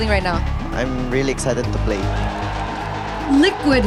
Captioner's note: crowd cheering, applauding